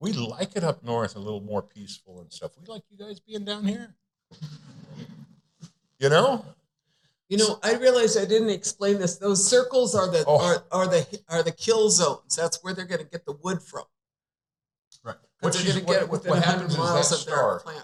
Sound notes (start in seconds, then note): 7.1 chuckling